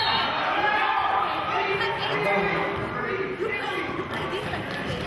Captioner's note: whistling